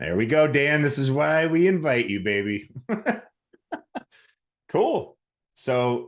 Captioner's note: laughs